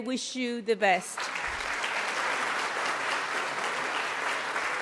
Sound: audience applauds

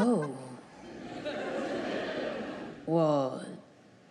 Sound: crowd laughs

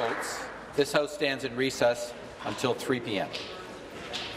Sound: applause

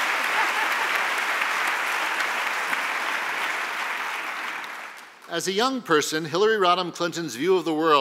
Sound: applause

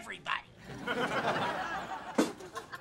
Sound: laughing

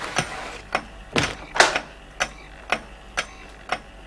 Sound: clock ticking and whirring

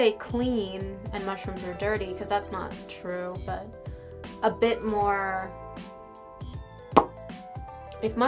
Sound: lip pop

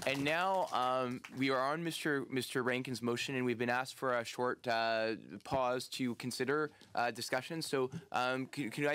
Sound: applause

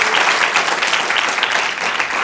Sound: applause

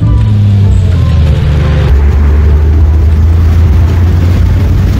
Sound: motorcycle

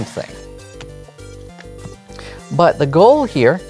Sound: cards slapping and sliding

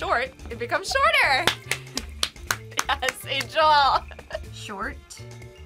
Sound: laughs

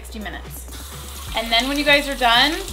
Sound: running water

